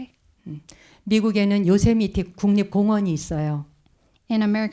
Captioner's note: speaking in Korean